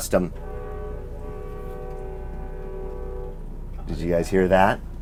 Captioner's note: distant honks